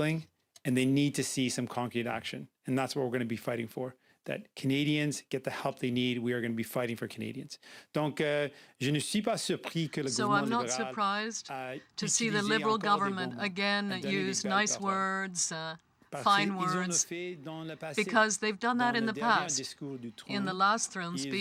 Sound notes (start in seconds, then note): 11.5 speaking french